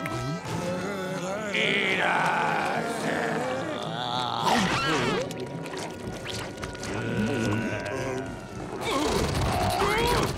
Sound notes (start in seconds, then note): 0.8 grunting; 4.2 chomping; 6.8 groaning; 8.5 grunting